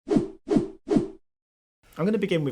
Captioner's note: whooshing